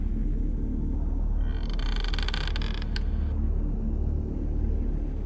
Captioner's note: door creaks